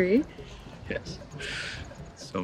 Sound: laughs

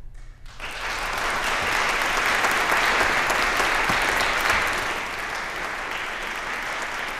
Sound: applause

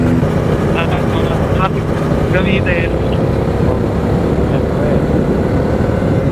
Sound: distorted audio

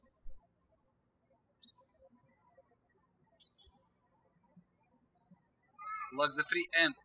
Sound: birds chirping

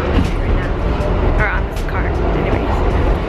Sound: train

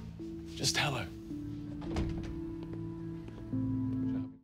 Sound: door closes

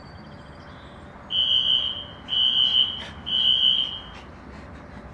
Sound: fire alarm

